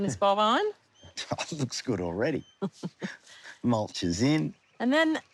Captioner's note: laughs